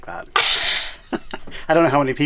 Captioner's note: laughing